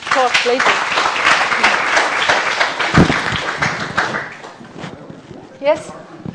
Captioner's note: applause